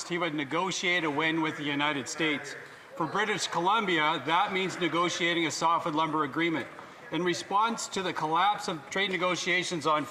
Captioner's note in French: voix de l'interprète